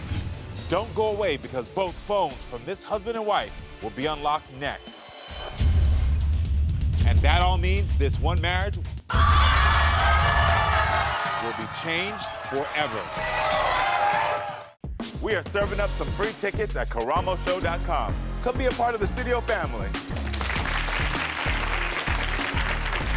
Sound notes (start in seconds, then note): 4.4 dramatic music; 8.9 audience groans; 20.1 audience applauds